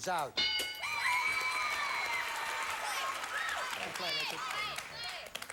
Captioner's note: audience applauding